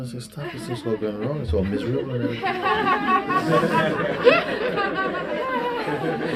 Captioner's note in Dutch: gelach